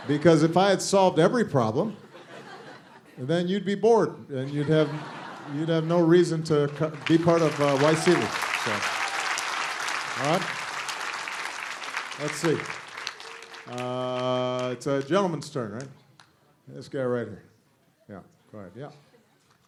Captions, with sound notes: Because if I had solved every problem, then you'd be bored. You'd have no reason to be part of YSEALI. [APPLAUSE] Let's see, it's a gentleman's turn, right? This guy right here, yeah, go ahead.